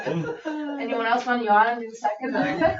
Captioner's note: members laughing